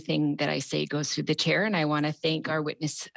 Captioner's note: speaking French